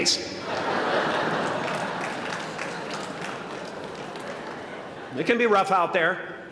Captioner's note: laughter